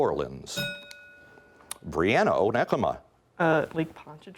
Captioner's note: bell rings